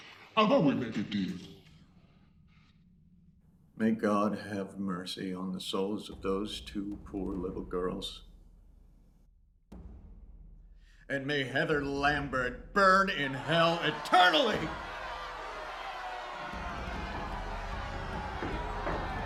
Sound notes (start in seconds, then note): 14.8 crowd cheering